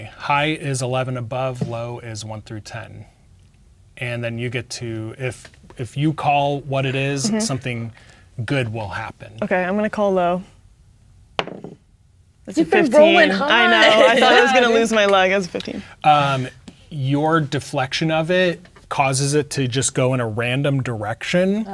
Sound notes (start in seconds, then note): 11.2 dice rolling; 13.2 laughing